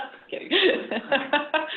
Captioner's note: laughter